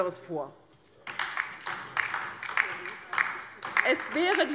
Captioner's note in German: Beifall bei der LINKEN